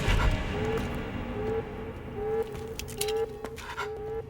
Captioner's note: alarm blaring; intense music continues